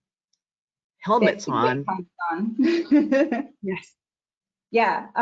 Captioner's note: laughs